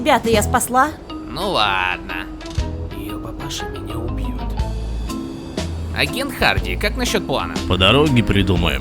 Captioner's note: whisper